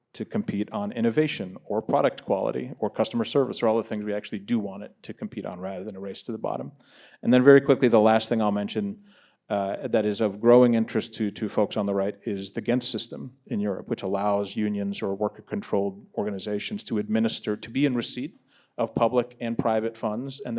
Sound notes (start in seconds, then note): none